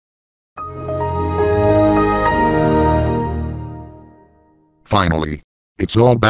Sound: Windows XP Startup

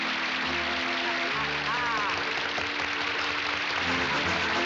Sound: laughter and applause

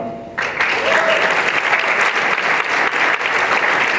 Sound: applause

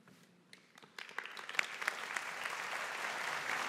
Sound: audience applauding

